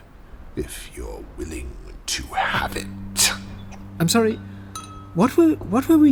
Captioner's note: confused